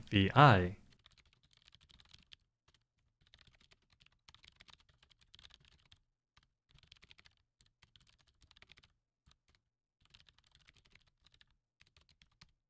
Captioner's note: typing